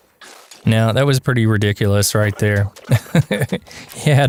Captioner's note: haha